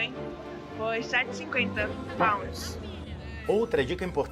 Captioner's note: pounds